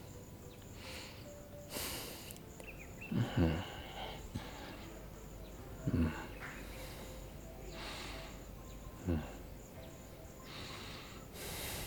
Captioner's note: Essouflement